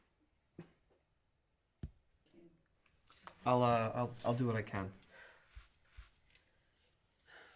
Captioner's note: none